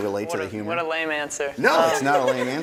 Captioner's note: laughter